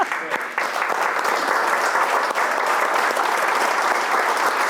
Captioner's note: audience applauding